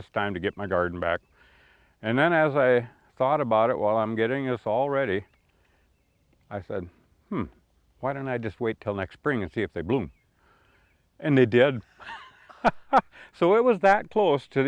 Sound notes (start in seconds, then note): 12.0 chuckle